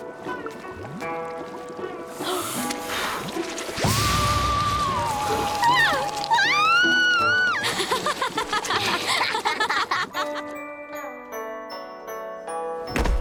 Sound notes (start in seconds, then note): 5.6 screaming; 7.6 laughing